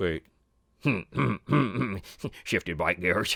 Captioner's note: snickering